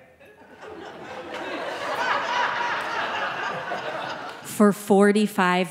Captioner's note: audience laughing